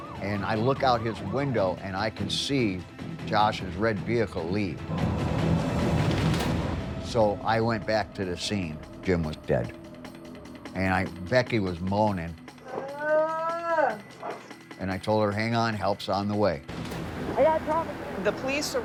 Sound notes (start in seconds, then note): 12.6 moaning